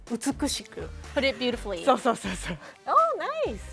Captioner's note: speaking Japanese